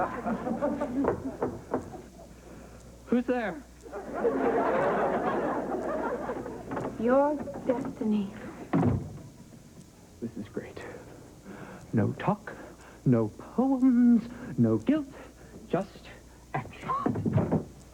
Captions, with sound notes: [KNOC■ KNOC■] ■ W■O■S T■E? ■ ESTIN■. ■■■■■■■■■■■■■■■■■■■